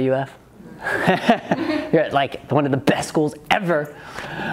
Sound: laughs

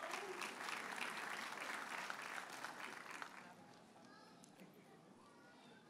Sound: audience hollers and applauds

